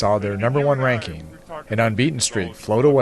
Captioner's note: team cheering